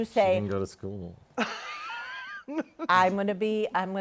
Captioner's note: laughter